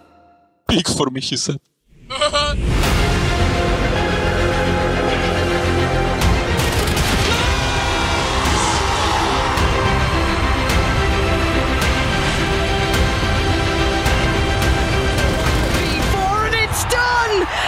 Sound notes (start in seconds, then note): 7.3 screams in Polish; 8.7 roars in Turkish